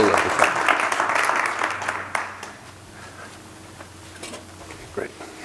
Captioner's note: applause